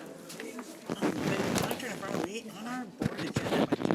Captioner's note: rustling